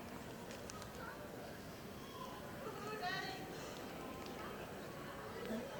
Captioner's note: indistinct audience chatter